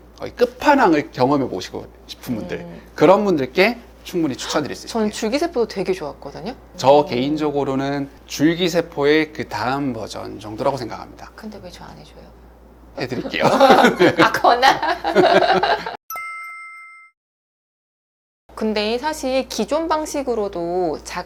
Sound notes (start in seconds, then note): 13.2 laughs